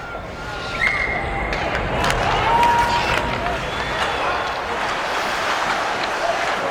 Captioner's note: people cheering; whistle blows